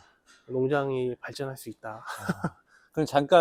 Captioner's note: laughs